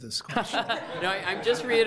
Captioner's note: committee members laugh